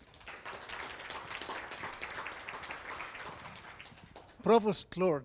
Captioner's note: audience applause